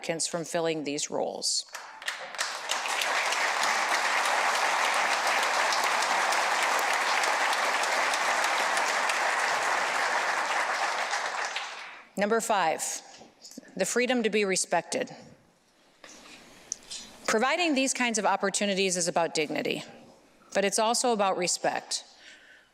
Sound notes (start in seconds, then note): 7.7 applause